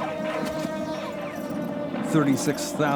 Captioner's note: gunshots pinging